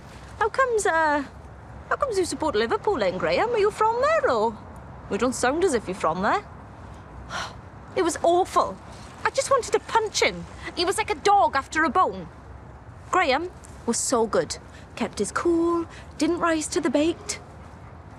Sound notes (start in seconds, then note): 7.3 she huffs